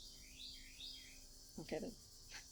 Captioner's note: bird chirping